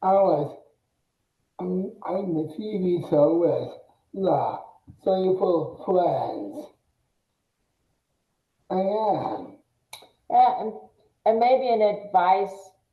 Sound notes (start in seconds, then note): 5.1 mumbles excitedly